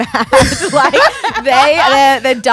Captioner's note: both laughing